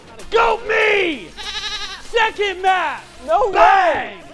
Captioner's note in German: schafe baas